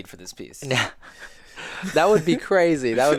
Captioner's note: laughing